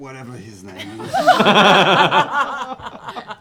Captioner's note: laughter